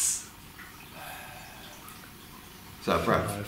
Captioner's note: loud breathing